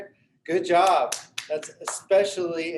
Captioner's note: man clapping